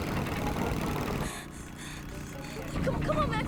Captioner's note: gasping